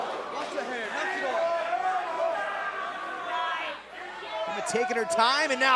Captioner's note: crowd cheering